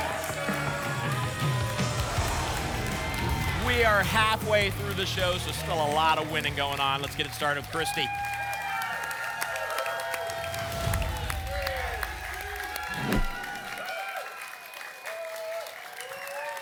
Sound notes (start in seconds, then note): 0.2 applause and cheering; 9.6 applause and cheering cont; 12.9 whoosh; 13.9 applause and cheering cont